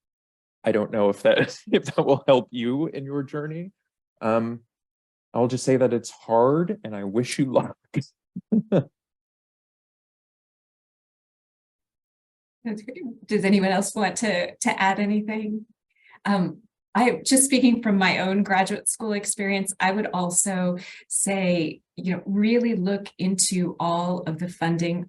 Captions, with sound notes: I don't know if that will help you in your journey. I'll just say that it's hard and I wish you luck. (laughs) - Does anyone else want to add anything? Just speaking from my own graduate school experience, I would also say, really look into all